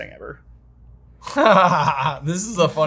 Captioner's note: laughs